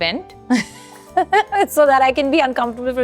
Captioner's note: chuckles